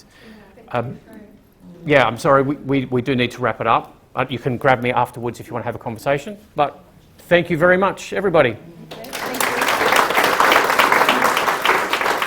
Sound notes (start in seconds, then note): 8.9 applause